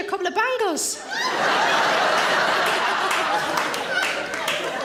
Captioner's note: audience laughing